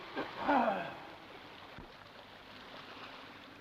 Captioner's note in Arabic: أنين غروت